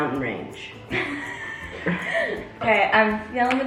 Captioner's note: laughs